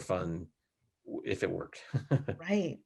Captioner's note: laughs lightly